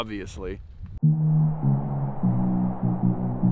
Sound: whooshing; building electronic music

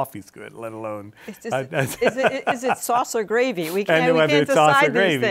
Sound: laughs

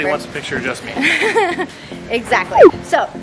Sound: laughs

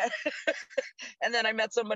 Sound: laughs

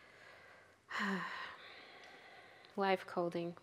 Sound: sighs

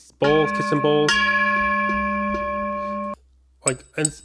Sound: clang sound

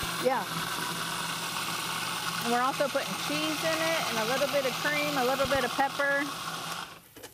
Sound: grinding sound

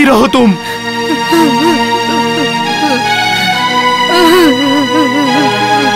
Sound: sobbing

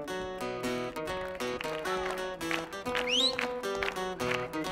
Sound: audience claps

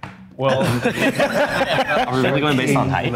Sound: all laughing

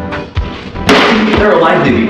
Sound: loud bang

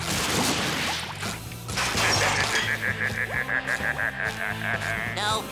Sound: laughing

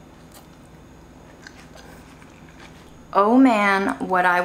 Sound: food squishing

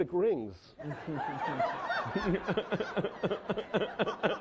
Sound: laughing

